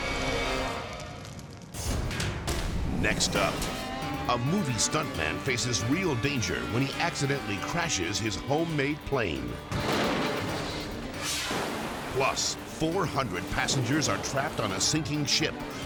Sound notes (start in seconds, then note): 1.6 dramatic music; 9.6 plane crashing